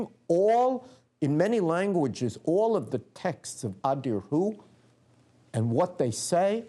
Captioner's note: non-english speech